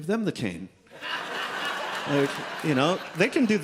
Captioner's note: audience laughs